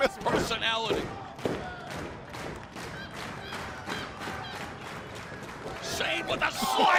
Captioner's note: crowd cheering